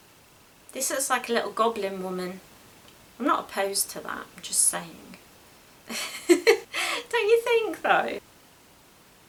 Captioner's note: laughs